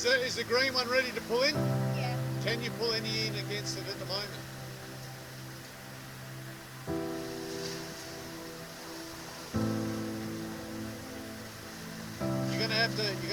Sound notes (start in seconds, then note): 7.6 intense music; 7.6 waves crashing